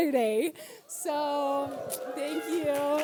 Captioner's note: audience cheers